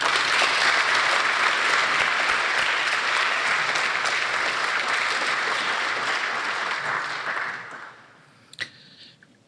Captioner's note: applause